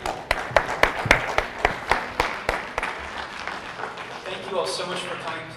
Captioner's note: audience applauds